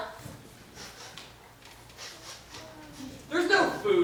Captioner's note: sniff sniff sniff